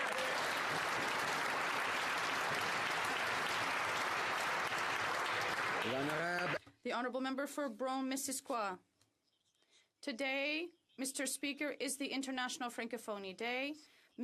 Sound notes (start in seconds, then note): 0.0 some Applause; 9.0 speaking French